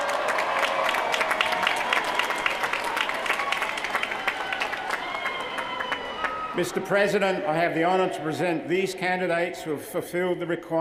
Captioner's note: cheers & applause